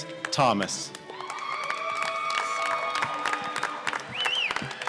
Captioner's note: applause